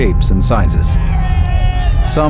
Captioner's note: crowd cheering